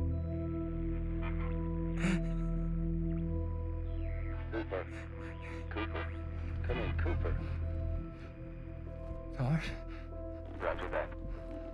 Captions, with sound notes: [sobbing] Cooper. Cooper. Come in, Coope. TARS? Roger that.